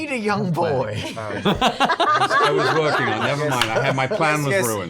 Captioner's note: laughter